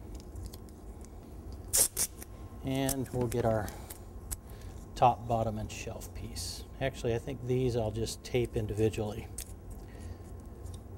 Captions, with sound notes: [tape being pulled from roll] skriiiiiip skriiip and we'll get our top, bottom, and shelf piece. Actually I think these I'll just tape individually.